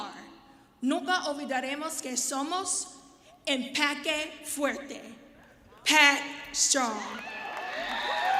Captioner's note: speaking spanish